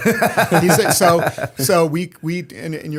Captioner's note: laughter